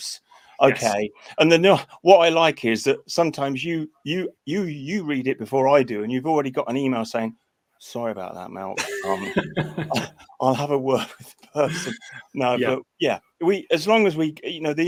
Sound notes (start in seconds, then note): 8.8 chuckles